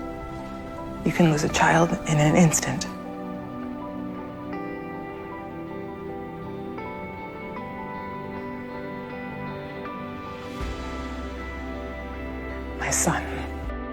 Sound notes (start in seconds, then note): 1.2 voiceover